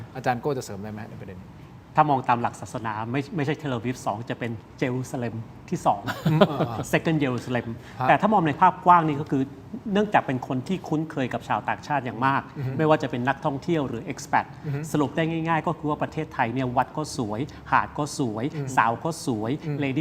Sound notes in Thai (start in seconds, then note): 6.0 เสียงหัวเราะ